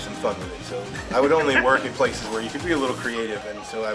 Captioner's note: laughs